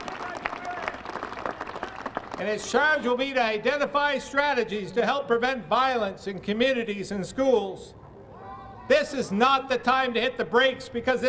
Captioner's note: applause